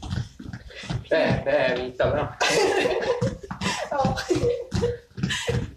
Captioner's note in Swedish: alla skrattar